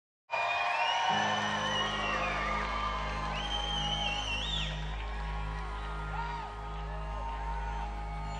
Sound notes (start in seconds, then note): 0.3 crowd cheering; 0.3 crowd whistling; 3.2 somber electronic music